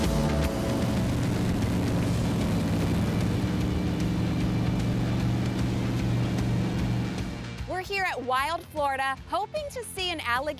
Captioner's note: boat zooming